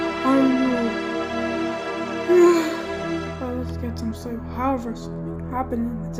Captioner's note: yawns